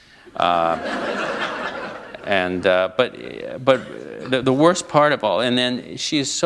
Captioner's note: laughter